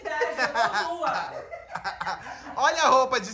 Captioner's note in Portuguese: riem